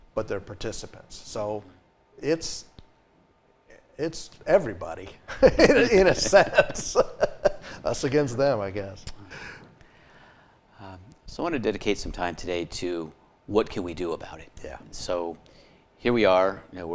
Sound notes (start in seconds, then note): 5.3 laughing